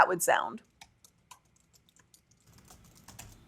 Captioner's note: typing